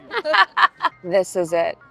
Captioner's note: laughing